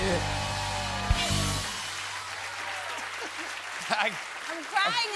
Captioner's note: cheers and applause